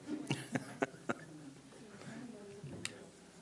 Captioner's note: laughs